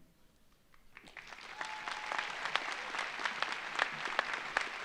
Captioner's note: audience applauds